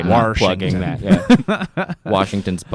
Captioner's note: laughs